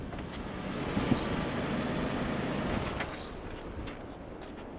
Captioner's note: engine rumbling